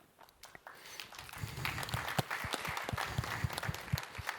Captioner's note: applause